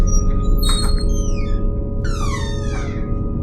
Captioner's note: door creaks loudly